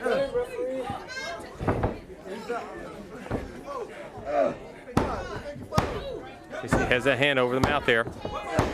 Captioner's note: crowd chatter